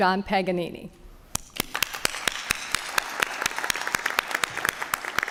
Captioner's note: applause